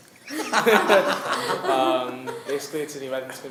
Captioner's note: laughing